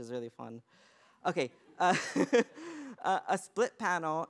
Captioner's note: laughter